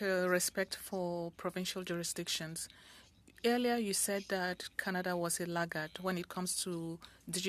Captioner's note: speaking French